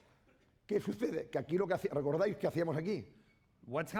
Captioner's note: speaking spanish